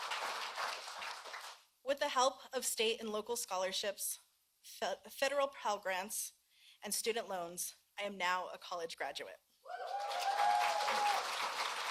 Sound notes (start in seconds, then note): 3.4 applause